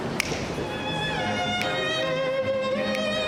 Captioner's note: snapping